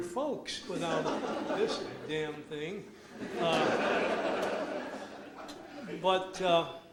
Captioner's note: audience laughs